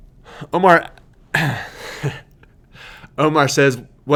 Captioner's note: laughing